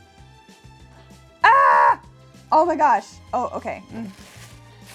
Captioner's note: shouts